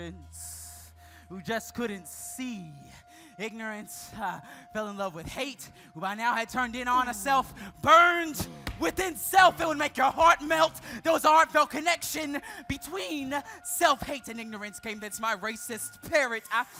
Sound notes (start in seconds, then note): none